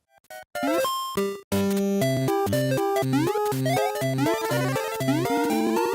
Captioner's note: Super Mario Land sounds